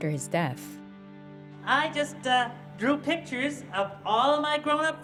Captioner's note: soundbite of tv show, "sesame street"